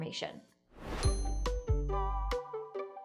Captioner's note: screen whooshing; uplifting music